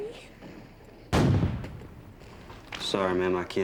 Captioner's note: cannon fire